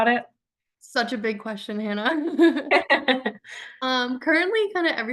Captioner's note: both chuckles